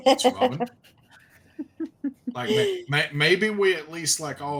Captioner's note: chuckles